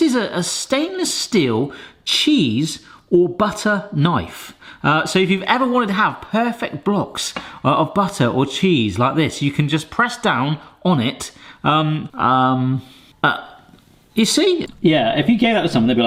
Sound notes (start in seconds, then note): none